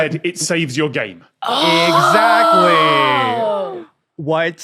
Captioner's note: gasp